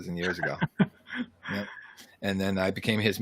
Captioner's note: laughs